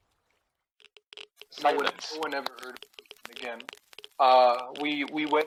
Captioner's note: geiger counter